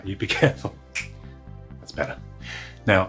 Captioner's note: snaps